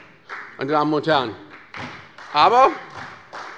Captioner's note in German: Beifall bei Abgeordneten der SPD und der FDP